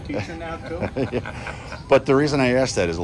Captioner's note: laughs